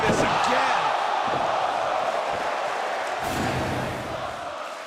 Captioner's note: crowd cheering